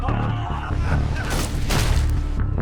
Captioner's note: screaming